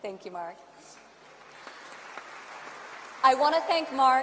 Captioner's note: applause